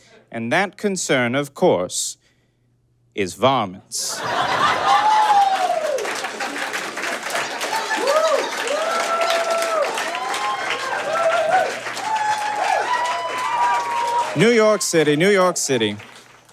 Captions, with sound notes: And that concern, of course... ...is varmints. (audience blurts laughter, then cheers and applauds) (audience whoops) New York City, New York City.